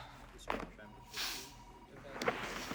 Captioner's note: sniffs